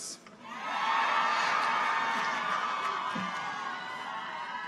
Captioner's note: people cheer